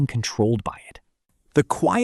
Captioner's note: pause